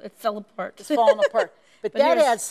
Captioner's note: laughs